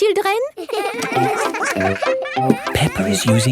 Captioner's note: all giggling